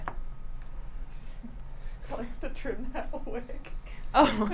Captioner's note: laughs